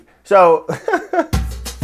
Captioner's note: laughing; upbeat music